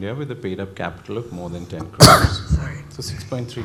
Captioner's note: cough drowns out speaker